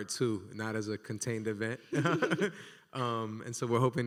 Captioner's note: laughs